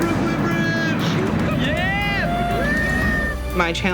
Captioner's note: cheering